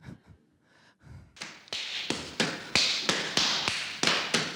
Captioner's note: slapping sound